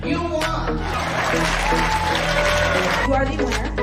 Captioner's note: cheering, applause